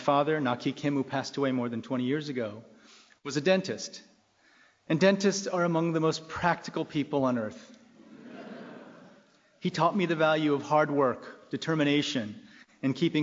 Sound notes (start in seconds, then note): 8.0 laughing